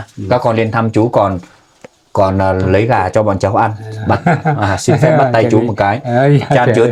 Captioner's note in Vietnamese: tiếng cười